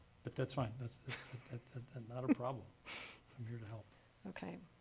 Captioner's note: laughs